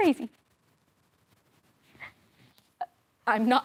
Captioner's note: soft sharp breaths